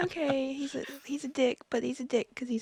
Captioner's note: laughter